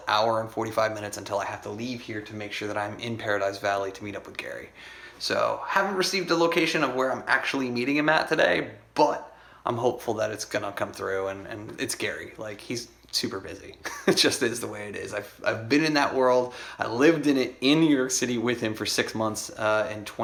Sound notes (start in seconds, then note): 13.8 chuckles